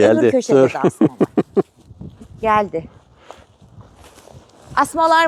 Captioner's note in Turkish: kahkaha